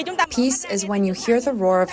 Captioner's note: through translator